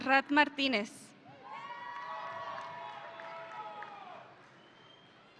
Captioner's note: audience cheering